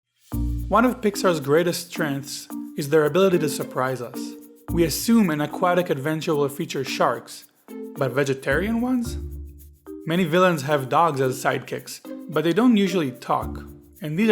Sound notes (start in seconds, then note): 1.0 voiceover